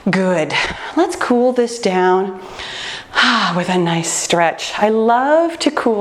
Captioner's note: sighs